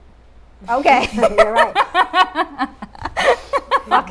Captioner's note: laughing loudly